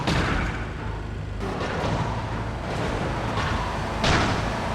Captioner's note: explosion